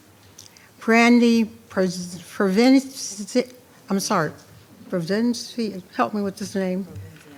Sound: stutters

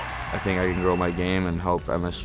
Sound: cheering

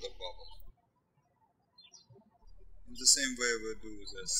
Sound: birds chirping

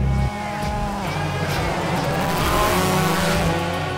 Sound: engine revving

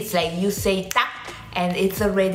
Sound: snaps finger

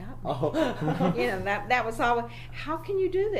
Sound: laughs

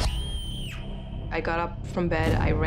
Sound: screaming

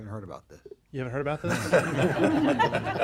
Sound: laughter

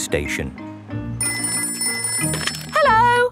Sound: ringing

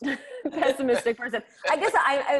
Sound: both laughs

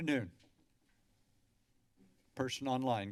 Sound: silence

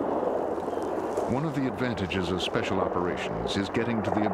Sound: voiceover

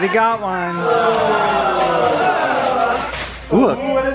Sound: crowd groans

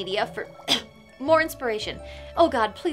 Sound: cough

